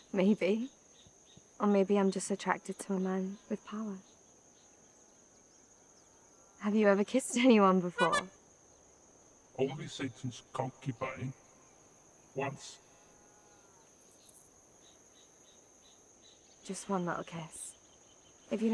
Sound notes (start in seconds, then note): 8.0 horn honking